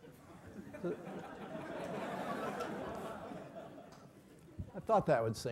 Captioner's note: laugh